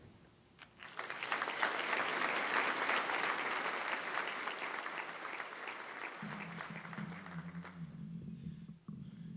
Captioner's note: applause